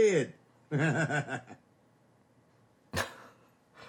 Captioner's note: laughing